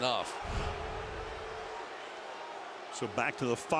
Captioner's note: swoosh